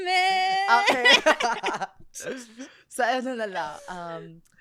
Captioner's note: laughs